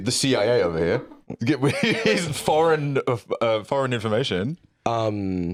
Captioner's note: laughs